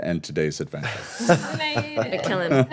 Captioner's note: laughing